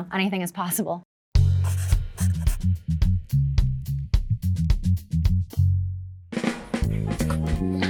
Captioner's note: upbeat music; pencil scribbling; upbeat music